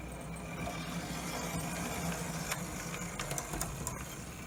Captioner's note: whirring